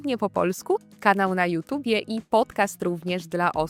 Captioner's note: fluent in Polish